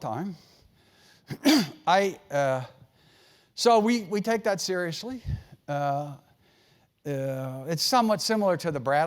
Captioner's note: cough